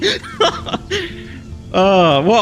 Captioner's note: laughs